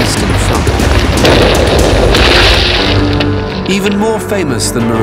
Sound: guns roaring; dramatic music

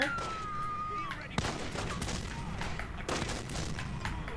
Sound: gunfire

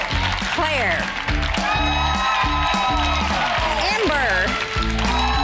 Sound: girls cheering

